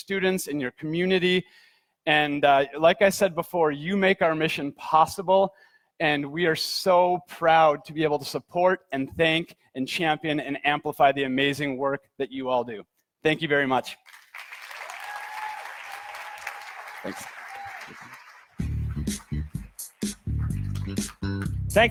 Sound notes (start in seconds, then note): 14.0 audience applauds; 18.0 upbeat music